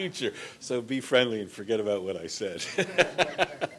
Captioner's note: laughter